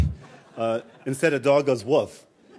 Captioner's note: laughter